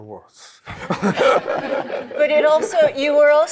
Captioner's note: laughter